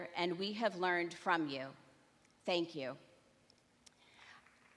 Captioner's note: applause